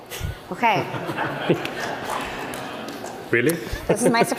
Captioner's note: laughter